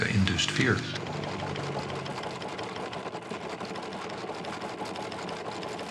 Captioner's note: printing press rumbling